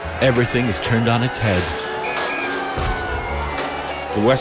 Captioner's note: police siren